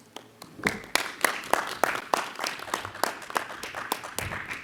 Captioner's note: clapping